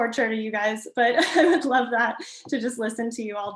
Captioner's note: chuckles